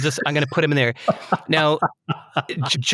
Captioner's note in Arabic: يضحك